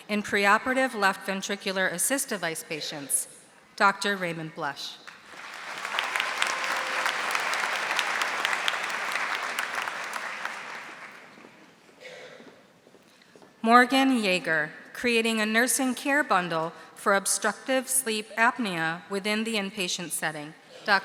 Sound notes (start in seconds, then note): 5.1 audience applauding